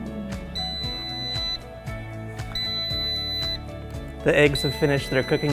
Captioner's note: air fryer beeping